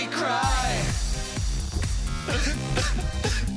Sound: sobbing

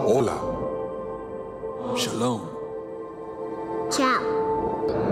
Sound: speaking in foreign language

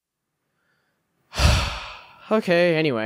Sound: sigh

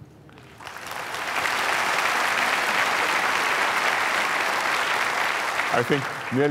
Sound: applause

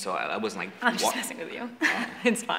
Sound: laughs

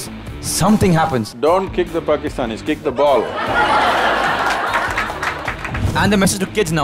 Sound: laughter/Applause

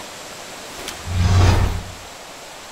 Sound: omonious woosh

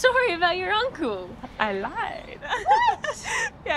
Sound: laughing

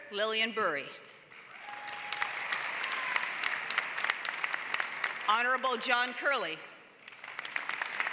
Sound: applause

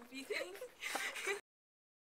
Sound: laughs

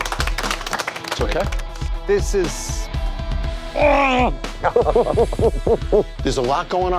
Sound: applause; laughs

